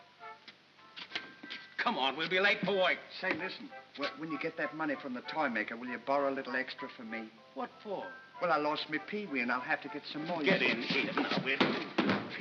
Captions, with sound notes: - (smack) Come on, we'll be late for work! - Say listen, when you get that money from the toy maker will you borrow a little extra for me? - What for? - Well I lost my Pee Wee, and I'll have to get some more-- - Get in here now, will you!